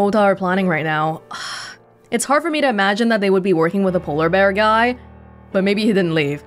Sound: exhales

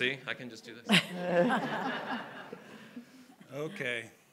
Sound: audience laughing

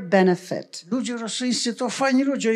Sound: foreign language

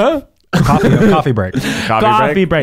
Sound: laughing

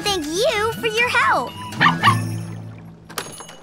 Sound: barking

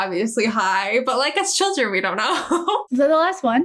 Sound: laughs

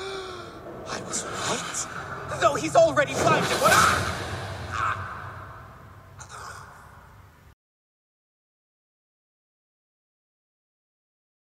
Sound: gets slapped like a pathetic bitch

